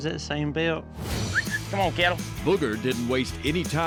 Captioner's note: whistling